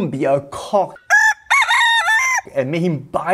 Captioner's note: cock crows